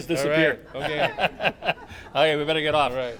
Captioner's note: laughter